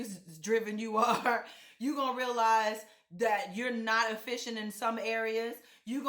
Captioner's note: chuckle